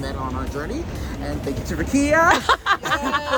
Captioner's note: chuckles